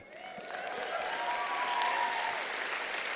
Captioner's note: applause